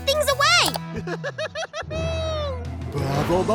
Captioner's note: giggling